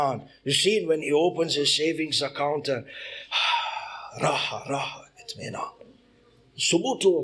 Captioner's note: sighs